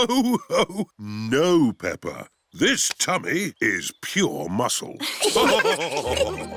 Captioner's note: laughs; all laughing